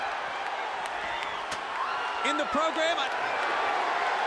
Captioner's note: applause